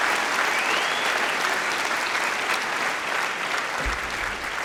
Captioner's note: applause